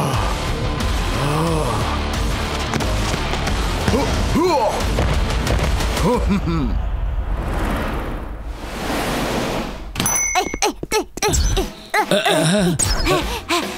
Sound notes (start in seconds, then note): 10.0 grunting